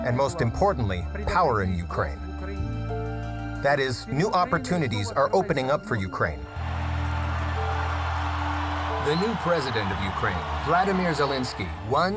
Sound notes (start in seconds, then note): 6.6 audience cheering